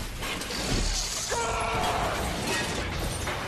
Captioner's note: Kylo Ren screaming angrily